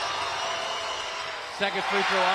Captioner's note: applause